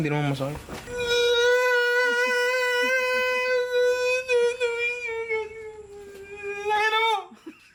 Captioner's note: cries in Falsetto